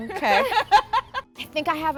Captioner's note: laughter